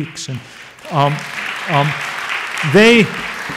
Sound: audience applauds

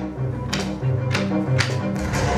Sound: footsteps

